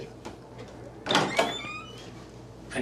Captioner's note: hinges squeaking